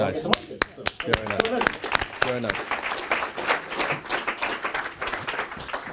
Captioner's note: audience applauds